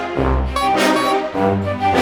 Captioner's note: honk honk